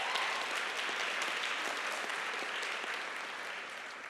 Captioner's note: applause and cheers